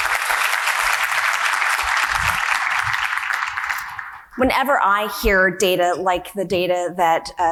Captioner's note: audience applause